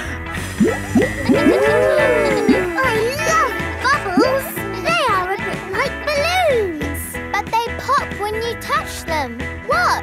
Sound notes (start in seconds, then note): 1.3 kids gasping and laughing